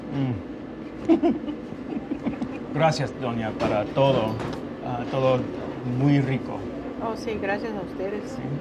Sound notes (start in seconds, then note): 1.0 laughing; 3.0 speaking in foreign language